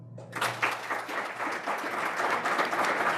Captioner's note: audience clapping